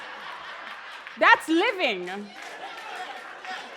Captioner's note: cheers and applause